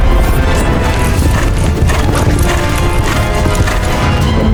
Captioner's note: horse pants